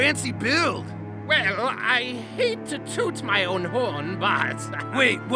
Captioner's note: chuckles